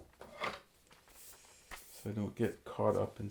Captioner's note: brush scratching